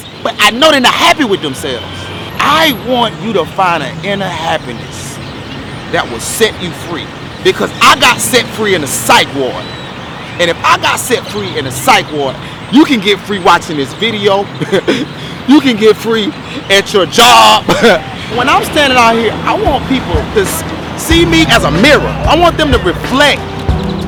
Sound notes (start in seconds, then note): 17.5 chuckles